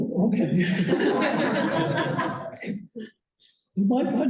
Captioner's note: laughter